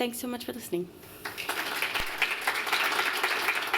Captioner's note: applause